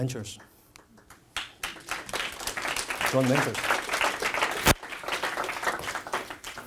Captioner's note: audience applauds